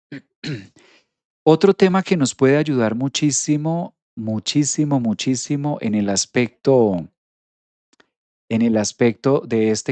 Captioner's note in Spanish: carraspeo